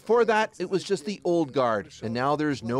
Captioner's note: speaking russian